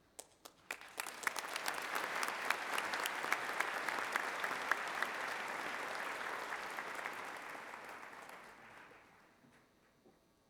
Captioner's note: applause